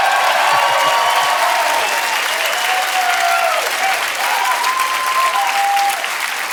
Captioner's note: audience cheering and applauding